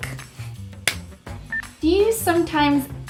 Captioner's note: clapping